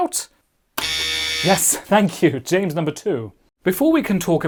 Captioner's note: buzzer